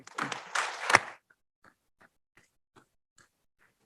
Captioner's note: audience applauds